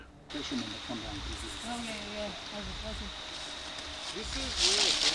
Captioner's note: indistinct conversation